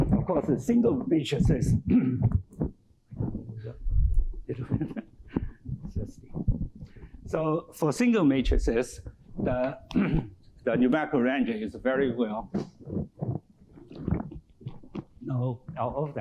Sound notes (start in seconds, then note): 1.7 clears throat